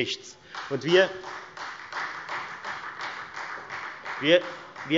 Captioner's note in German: Beifall Freie Demokraten